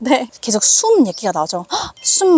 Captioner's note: breath